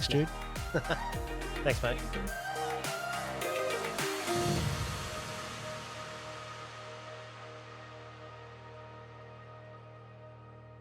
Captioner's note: laughs